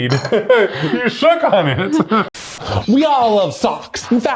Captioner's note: static noise hissing